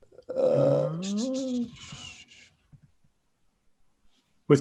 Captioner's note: sighs